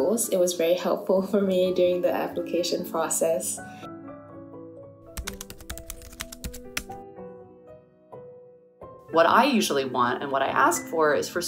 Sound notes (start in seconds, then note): 3.5 typing sound effects